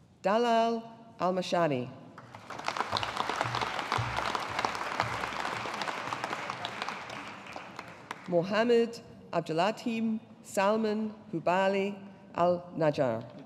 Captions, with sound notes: Dalal Almeshari. (AUDIENCE APPLAUDING) Mohamed Abduladheem Salman Hubail AlNajjar.